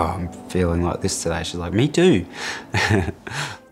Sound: laughs

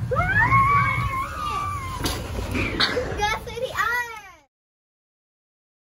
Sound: laughing

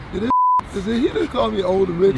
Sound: beeps

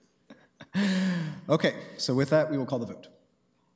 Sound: laughter

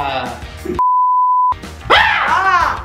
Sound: beeping; screaming

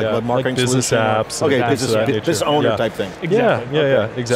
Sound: group chattering

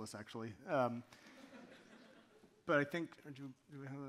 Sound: audience laughing

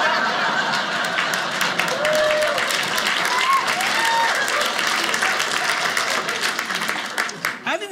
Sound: audience laughing; audience applauding

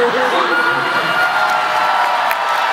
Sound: laughs

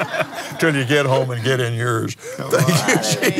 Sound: laughs

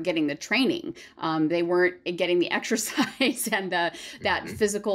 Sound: laughter

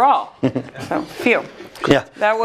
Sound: laugh

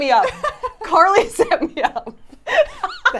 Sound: laughs

